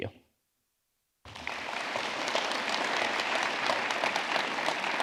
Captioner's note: audience clapping